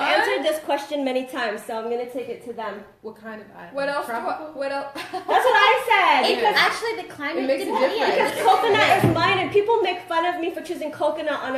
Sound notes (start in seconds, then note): 4.9 laughter